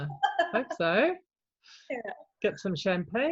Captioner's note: laughs